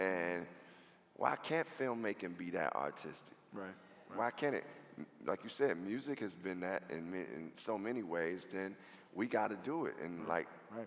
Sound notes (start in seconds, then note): none